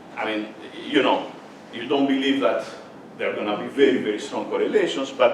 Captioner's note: none